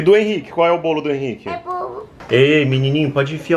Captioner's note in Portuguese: balbuciando